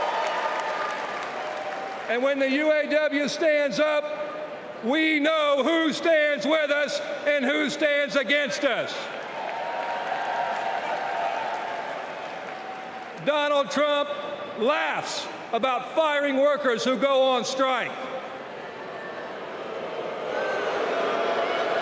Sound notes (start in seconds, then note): 5.0 applause